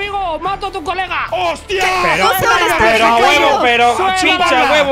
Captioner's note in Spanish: gritan